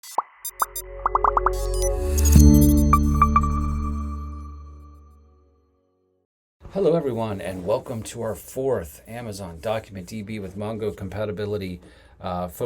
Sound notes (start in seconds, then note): 1.0 bubbles pop; 1.7 electronic beeps; 3.1 logo chimes